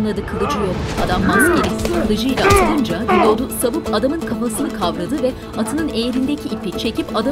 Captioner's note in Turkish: Dövüşme sesleri; Müzik - Aksiyon